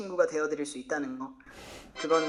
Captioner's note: snort